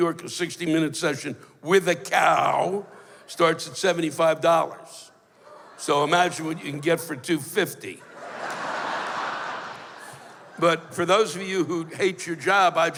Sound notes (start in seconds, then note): 8.0 laughter